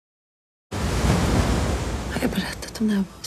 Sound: waves crashing

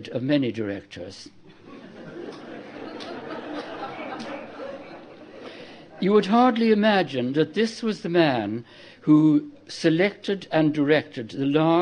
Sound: laughter

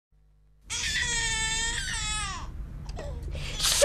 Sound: baby wailing

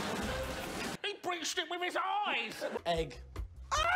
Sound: imitating roisin

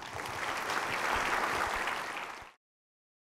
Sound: applause

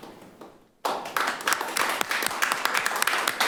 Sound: clapping

